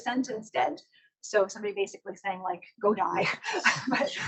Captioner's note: laughs